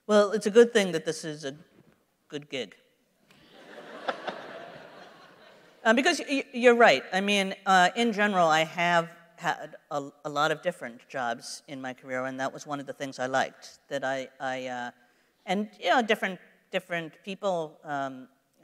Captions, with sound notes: - Well, it's good thing that this is a good gig. [laughter] Because, you're right, in general I have had a lot of different jobs in my career, and that was one of the things I liked. And you know, different people like